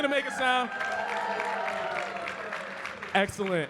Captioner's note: audience cheering and clapping